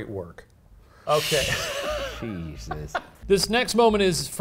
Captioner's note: laughs